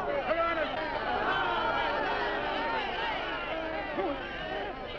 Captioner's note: crowd shouting